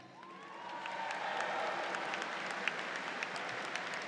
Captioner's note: audience applauds